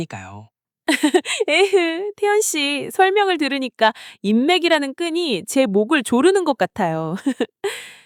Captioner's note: sigh